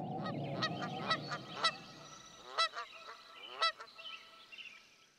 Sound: duck calls

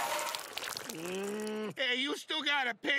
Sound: groaning

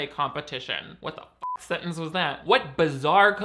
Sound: beep

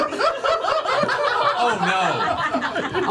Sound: all laugh

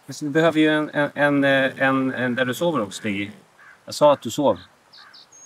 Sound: speaking in Swedish

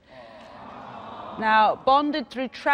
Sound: audience moans with sympathy

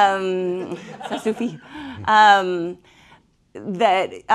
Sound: speaking french

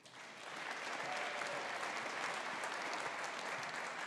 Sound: audience applauding

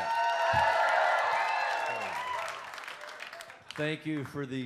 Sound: audience cheers

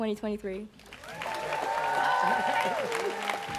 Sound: students cheering

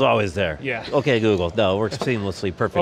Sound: laughs

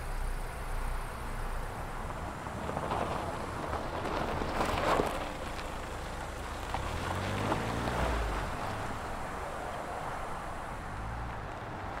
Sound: car drives away

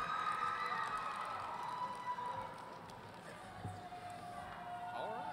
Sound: audience shouting and cheering

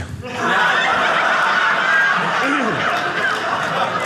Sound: audience laughing

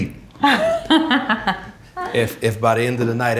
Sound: laughs

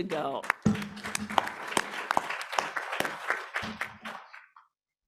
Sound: applause

